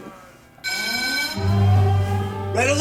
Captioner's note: alarm bell